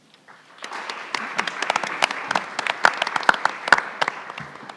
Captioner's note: everyone applauds